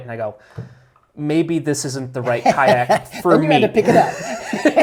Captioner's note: laughs